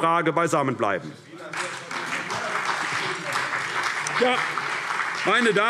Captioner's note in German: Beifall CDU - Zuruf AfD